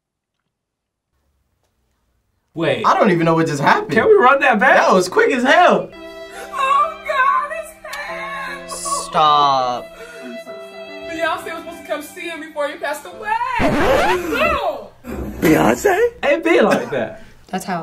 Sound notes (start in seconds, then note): 8.4 cries; 13.6 record scratches